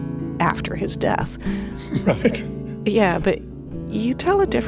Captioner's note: laughs